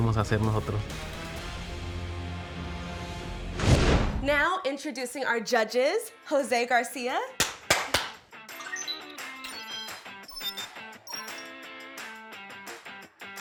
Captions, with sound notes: - Now, introducing our judges, Jose Garcia... (claps) (electronic beeps)